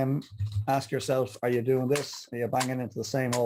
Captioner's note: hand tapping